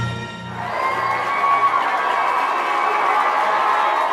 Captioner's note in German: Menge Beifall